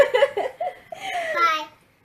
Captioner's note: laughing